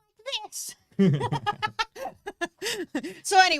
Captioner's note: both laugh